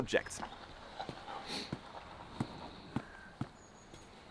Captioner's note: outdoor ambience sounds